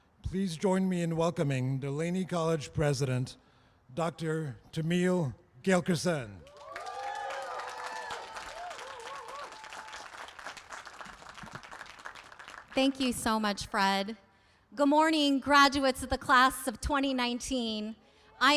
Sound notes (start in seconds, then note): 6.4 applause